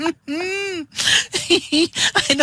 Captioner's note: laughter